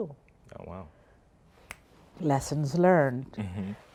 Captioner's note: snaps fingers